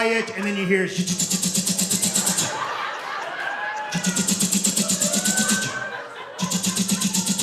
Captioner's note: mimicking machine gun fire